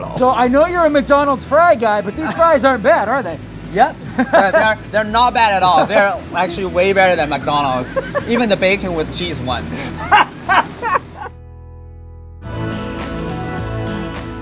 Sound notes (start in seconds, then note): 9.6 laughing; 12.3 uplifting music